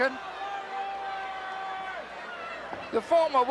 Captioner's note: applause